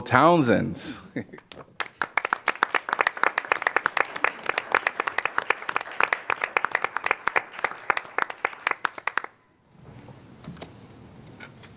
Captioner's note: applause